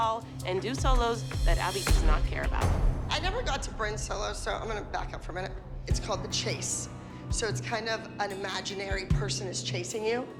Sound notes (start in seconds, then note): none